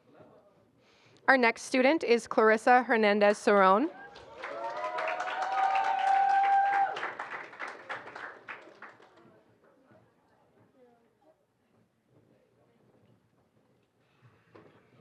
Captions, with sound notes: Our next student is Clarissa Hernandez Sarone. [APPLAUSE] [INDISTINCT CHATTER]